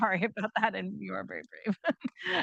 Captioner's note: chuckles